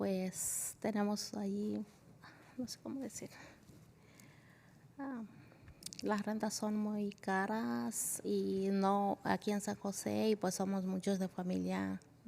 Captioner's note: spanish